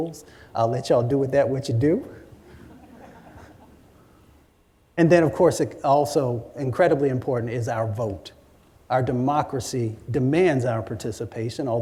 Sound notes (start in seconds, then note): 2.5 laughter